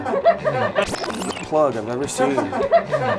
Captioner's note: group laughs; video whirs; group laughs